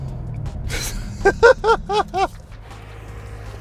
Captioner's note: laughs